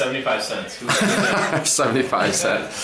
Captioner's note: laughter